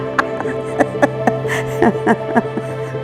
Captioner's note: laughs